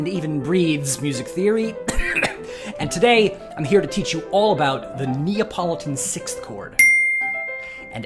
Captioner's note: cough